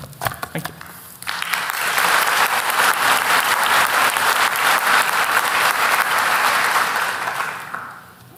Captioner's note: applause